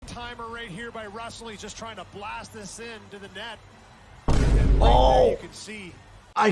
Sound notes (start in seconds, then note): 4.2 Vine Boom sound effect